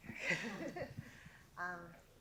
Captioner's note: guests laughing